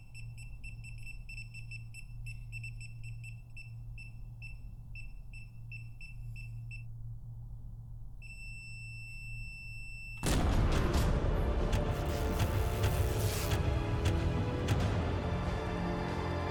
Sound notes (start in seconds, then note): 0.1 keypad beeping; 8.3 keypad beeping; 10.2 dramatic music